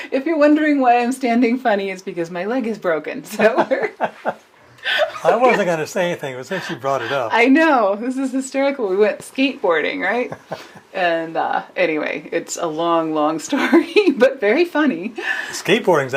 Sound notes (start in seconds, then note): 3.3 laughter